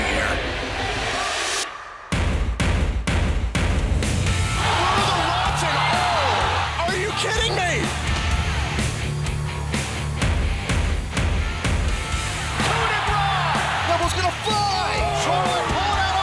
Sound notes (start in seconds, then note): 7.9 crowd cheering